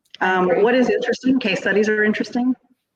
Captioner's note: laughs